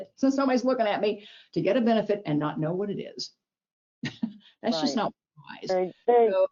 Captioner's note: chuckles